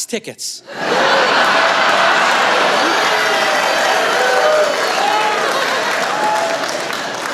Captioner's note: laughter